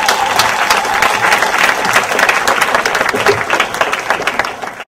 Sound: audience applause; audience applause and cheer

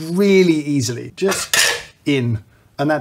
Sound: more clanging

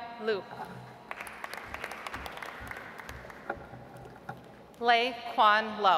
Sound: audience applauds

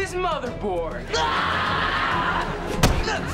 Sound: screaming

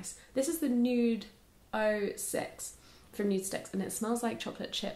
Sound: sniffing

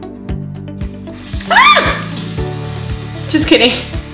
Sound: screams

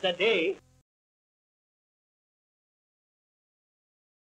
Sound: gap in recording

